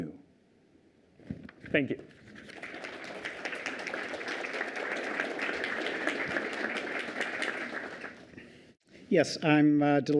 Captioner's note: applause